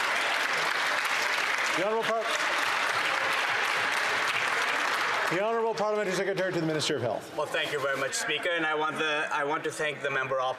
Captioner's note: some Applause